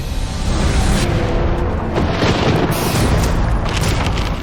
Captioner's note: thunder crashing